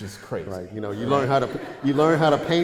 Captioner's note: audience laughter